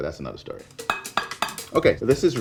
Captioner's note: spoon clanking